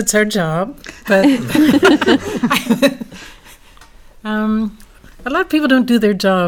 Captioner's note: laugh